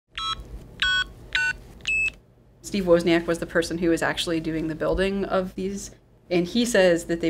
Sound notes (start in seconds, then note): 0.8 phone keys beeping